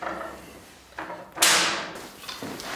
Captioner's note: loud bang